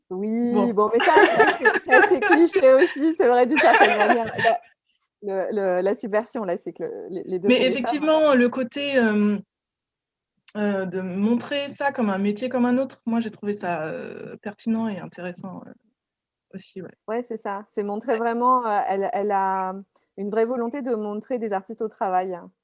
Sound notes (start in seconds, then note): 3.4 laughs